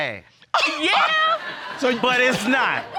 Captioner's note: audience laughing